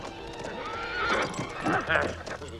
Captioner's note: cavalier shouting; horse neighs; cavalier laughing